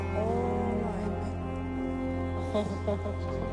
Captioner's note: echoing